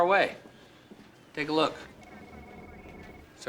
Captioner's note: laughs